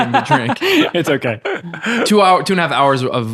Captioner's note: laughing